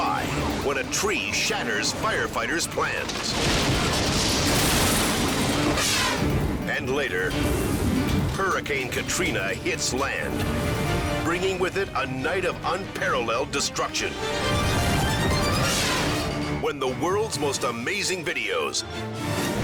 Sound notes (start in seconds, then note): 2.3 firetruck clashes; 2.9 tree rumbles; 5.4 air whooshes